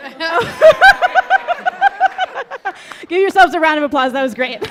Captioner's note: laughing